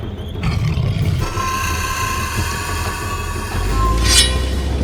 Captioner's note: beast growls; beast shrieks; stinger clinks